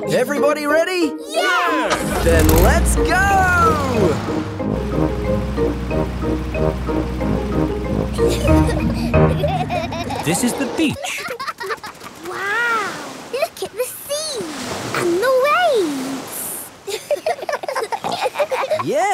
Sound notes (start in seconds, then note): 8.1 children giggling; 16.8 giggling